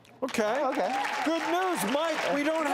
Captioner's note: audience cheers and claps